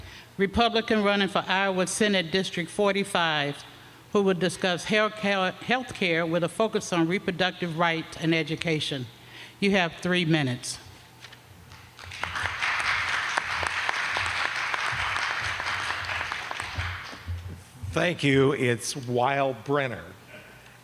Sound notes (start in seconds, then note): 11.7 applause